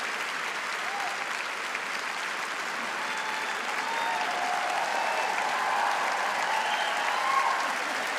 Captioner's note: cheering and applause